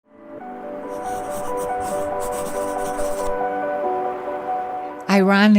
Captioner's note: soft music; pencil scribbling